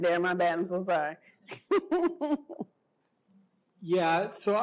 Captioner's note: laughter